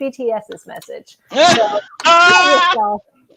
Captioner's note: laughing